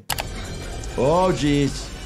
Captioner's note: mechanical whirring